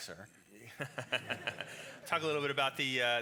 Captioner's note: laughs